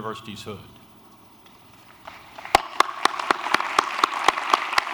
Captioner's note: applause